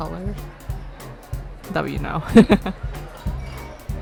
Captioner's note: laughs